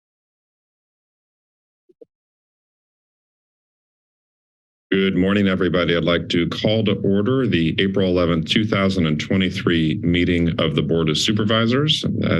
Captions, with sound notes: [silence] - Good morning, everybody. I'd like to call to order the April 11, 2023 meeting of the Board of Supervisors.